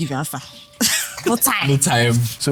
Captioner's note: laughs